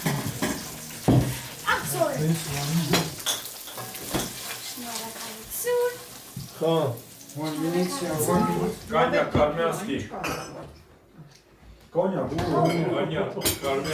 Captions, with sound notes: Thank you! [in Armenian] Cognac … Armenian Cognac.